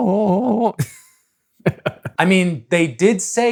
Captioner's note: laughs